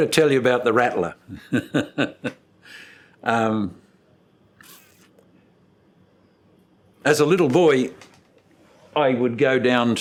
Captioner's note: laughs